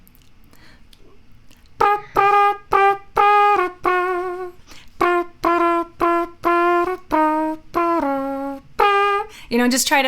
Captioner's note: imitating trumpet sounds